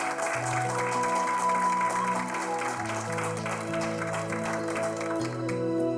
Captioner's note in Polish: Aplauz